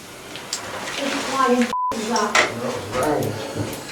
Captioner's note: beep